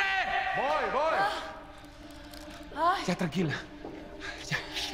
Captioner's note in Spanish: Quejidos